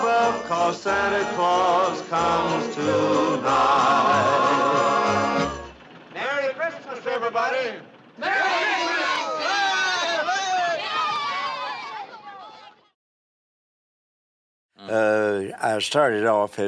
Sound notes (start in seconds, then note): 11.0 cheers